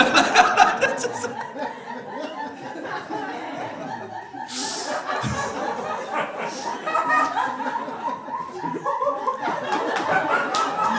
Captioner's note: laughter